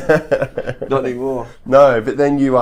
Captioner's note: both laugh